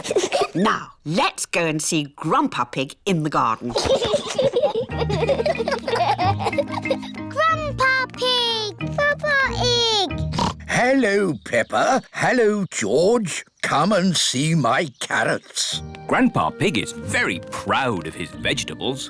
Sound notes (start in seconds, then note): 3.7 both laughing; 10.2 oinks